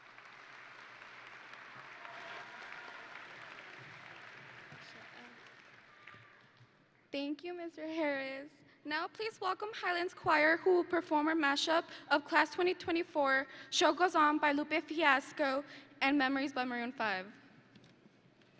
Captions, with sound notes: (audience and graduates applauding) (audience and graduates cheering) - Thank you, Mr. Harris. Now please welcome Highland's Choir, who will perform a mashup of the Class of 2024 "Show Goes On" by Lupe Fiasco and "Memories" by Maroon 5